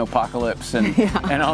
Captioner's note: chuckles